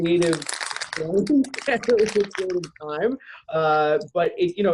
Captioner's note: crackling plastic